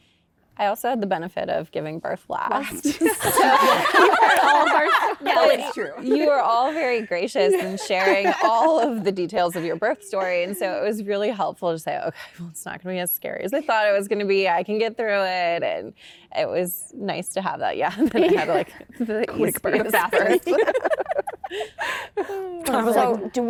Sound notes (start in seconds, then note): 2.8 laughter; 17.9 laughter